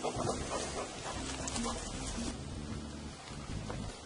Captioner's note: dog panting